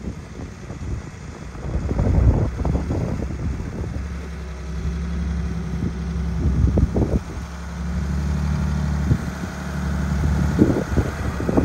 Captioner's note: wind blowing